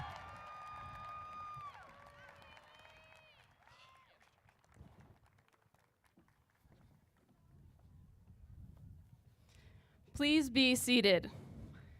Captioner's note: applause